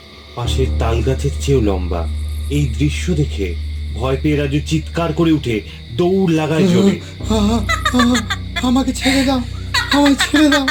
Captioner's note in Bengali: ব্যাকগ্রাউন্ডে সেই মেয়েলি স্বরের অট্টহাসি